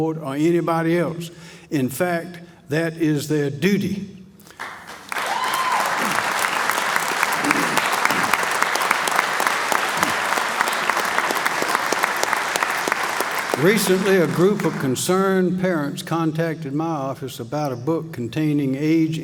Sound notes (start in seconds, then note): 4.5 applause